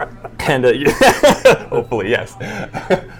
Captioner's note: laughing